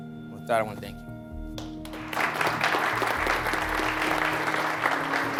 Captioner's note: audience applauding